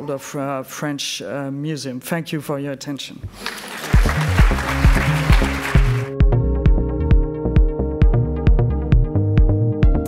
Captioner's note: applauds